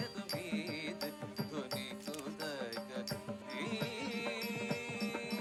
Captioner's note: camera clicking